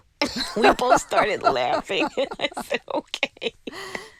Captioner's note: laughter